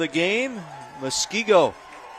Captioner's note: applause